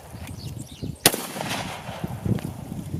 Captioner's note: gun fires